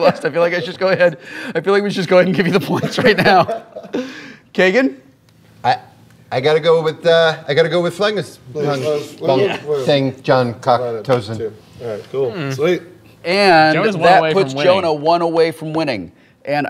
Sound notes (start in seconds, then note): 9.2 speaking gibberish